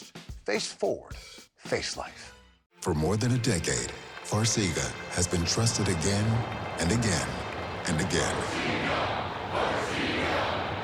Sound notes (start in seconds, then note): 4.3 audience shouting numbers